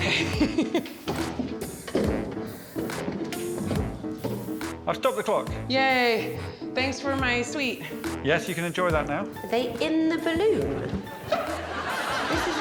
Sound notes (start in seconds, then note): 0.0 giggles; 2.7 chair thudding